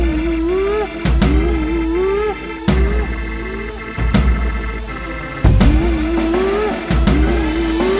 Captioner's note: humming